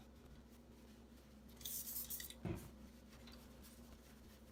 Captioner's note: person scrubs